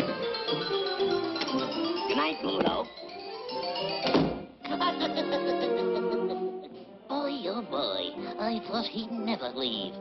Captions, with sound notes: Goodnight, Bluto. [laughs] Boy oh boy, I thought he'd never leave.